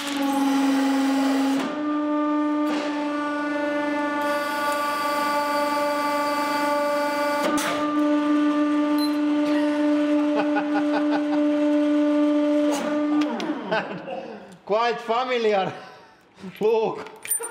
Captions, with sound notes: (Laughter) Quite familiar look